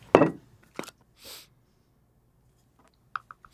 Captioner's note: confident sniff; comparatively sniffing